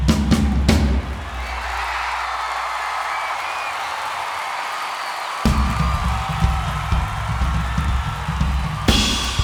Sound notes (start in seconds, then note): 0.7 crowd erupts